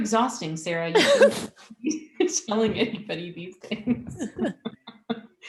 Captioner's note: both laughing